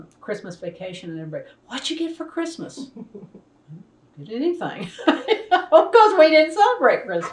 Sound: laughs

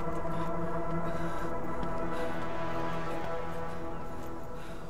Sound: Ranga breathing heavily

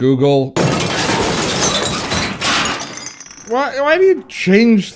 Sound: crashing

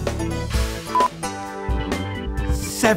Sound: beep

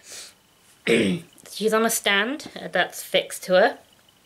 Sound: ahem

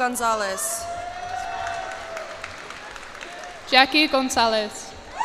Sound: cheers and applause

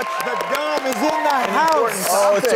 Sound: audience cheering

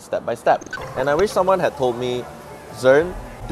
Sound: glitch sound effects

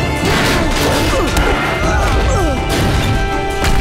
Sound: grunting

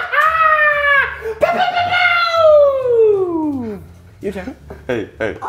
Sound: laugh

